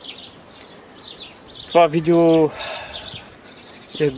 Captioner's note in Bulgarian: Въздишка